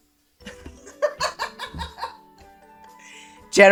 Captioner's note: laughter